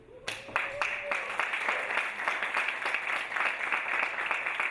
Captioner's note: audience applauding